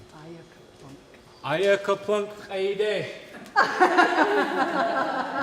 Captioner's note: laughter